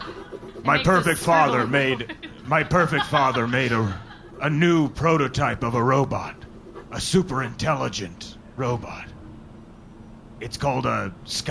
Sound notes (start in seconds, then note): 0.0 scribbling noises; 3.7 laughing